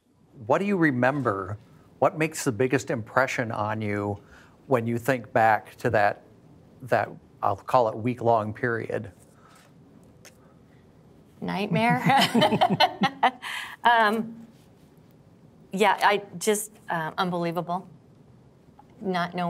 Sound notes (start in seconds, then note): 15.0 laughter